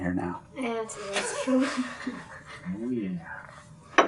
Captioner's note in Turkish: Kahkaha